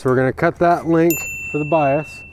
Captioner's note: chain link snapping; ding